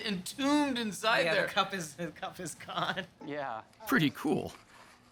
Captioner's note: chuckling